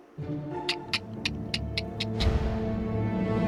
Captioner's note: clicking